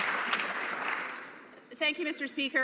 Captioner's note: some Applause